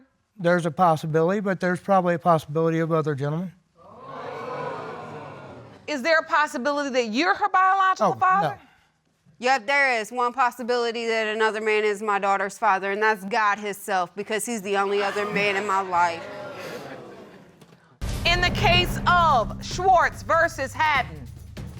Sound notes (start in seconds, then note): 3.8 audience exclaiming; 14.8 audience groans